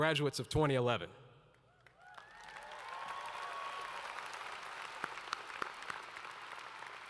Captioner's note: applause